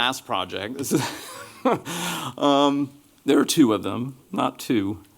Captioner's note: chuckles